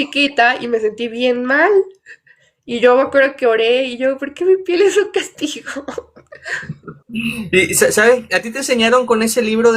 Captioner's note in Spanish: risas